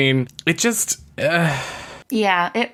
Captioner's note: groans